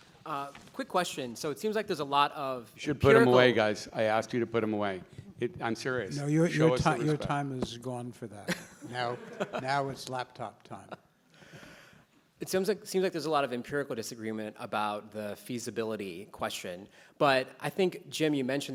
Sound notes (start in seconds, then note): 8.5 laughs